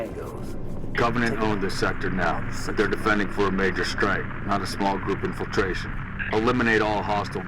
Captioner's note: radio